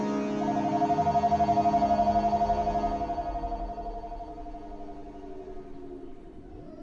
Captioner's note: phone Ringing